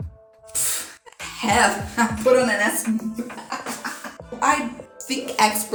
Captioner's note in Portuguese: risos